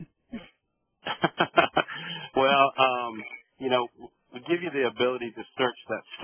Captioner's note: laughing